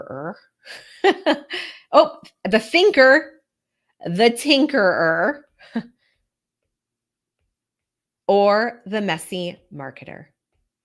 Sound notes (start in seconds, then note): 0.6 laughs